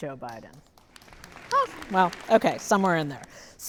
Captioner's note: audience applauding